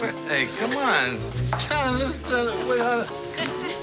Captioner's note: stammers